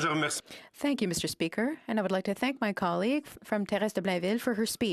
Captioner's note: speaking French